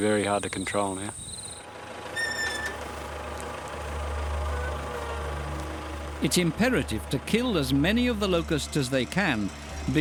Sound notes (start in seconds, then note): 1.8 tractor motor rumbling